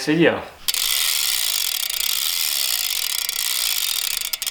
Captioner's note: hub ratcheting